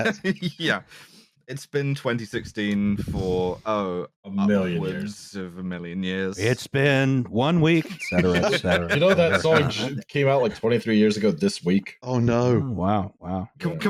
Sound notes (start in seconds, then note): 0.0 laughing; 7.8 laughter